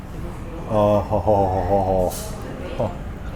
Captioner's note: moaning